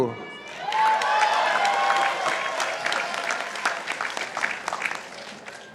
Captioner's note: participants applauding